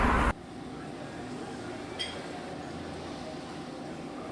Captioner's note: group chattering